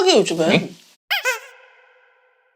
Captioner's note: Nattering with Nah